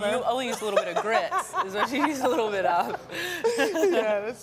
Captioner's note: laughs